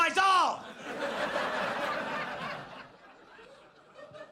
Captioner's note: audience laughs